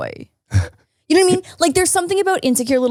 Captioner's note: chuckles